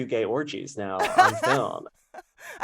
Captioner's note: laughter